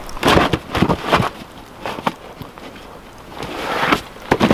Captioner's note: wood clanking